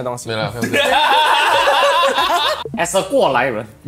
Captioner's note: laughs